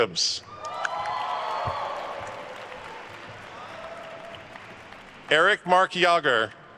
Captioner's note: attendees cheering and applauding